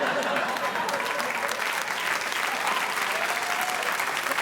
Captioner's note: audience applauding